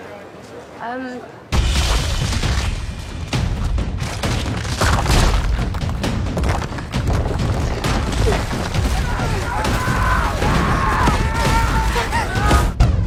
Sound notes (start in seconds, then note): 1.7 dramatic music plays; 1.7 wall cracks; 8.9 screaming